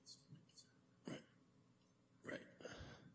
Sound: whispering

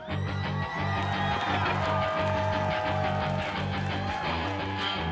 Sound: audience cheering

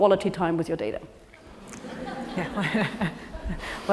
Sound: laugh

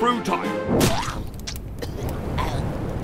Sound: splat

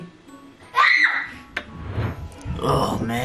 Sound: screams

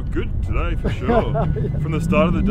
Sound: laughing

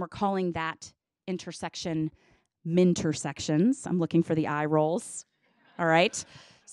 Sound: audience laughs

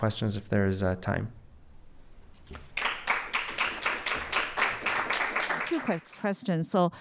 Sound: applause

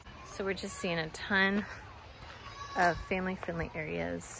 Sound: mountain stream

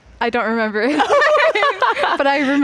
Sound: both laughing

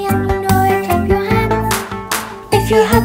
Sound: hands clapping

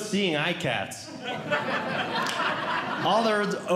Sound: audience Laughing

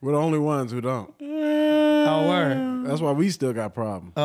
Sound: moans

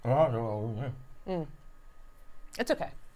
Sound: mumbles

